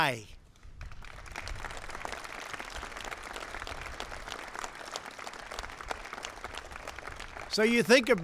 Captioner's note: applause